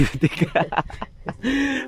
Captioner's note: laughs